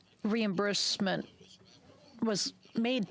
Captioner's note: speaking French